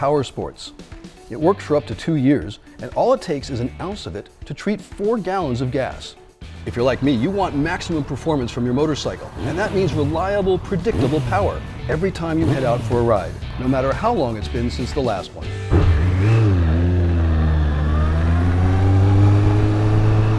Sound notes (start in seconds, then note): 6.8 revs engine; 15.7 engine starts